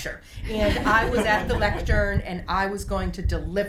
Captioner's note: group laughs